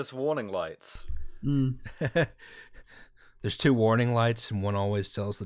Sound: laughter

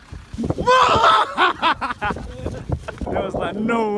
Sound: yelling

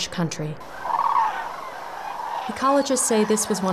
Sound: sounds of wetlands habitat

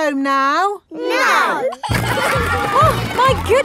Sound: giggling

